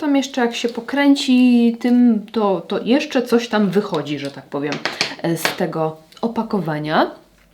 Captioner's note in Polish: aplauz